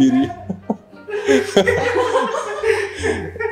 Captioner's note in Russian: смеется